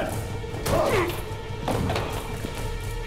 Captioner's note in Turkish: İnilti sesi